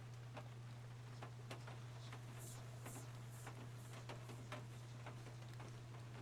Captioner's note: whispering Noises